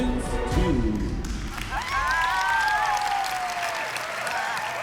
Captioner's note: applause